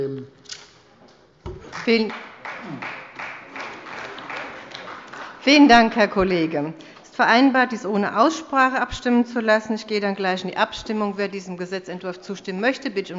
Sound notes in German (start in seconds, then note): 1.6 Beifall bei der CDU